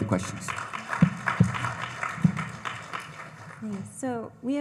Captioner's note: audience applauding